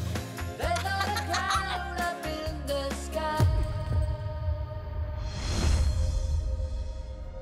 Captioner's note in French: rires